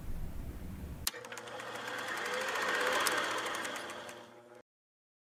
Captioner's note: old film reeling